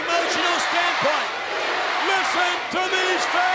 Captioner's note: audience chanting